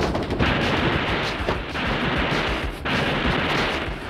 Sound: gunfire; upbeat music

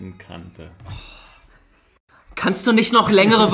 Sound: moans

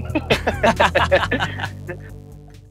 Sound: laughs

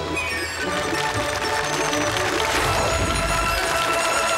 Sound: applause

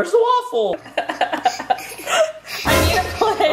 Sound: mom laughs; dramatic sound effect

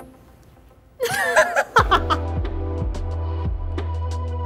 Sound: laughing

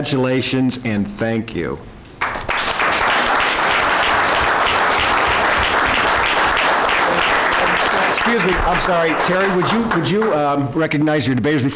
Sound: applause

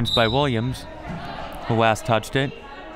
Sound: whistle

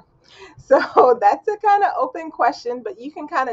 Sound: laughs

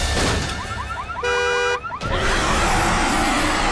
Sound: car alarm wailing; roars

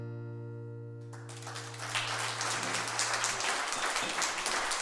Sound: applause

